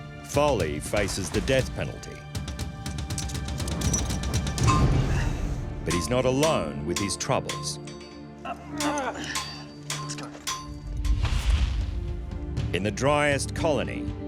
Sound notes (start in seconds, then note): 4.4 metal thuds; 8.5 man grunts